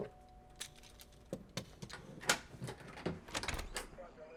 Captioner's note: tools clattering